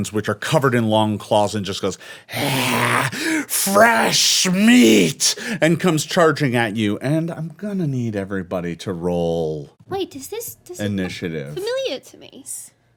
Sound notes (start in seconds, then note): 2.3 snarls